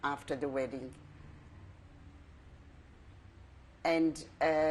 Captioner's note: pauses for 3 seconds